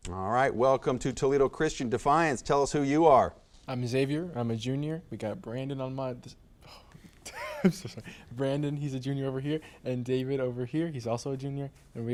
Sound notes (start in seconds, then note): 7.2 laughs